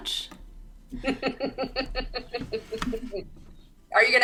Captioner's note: chuckles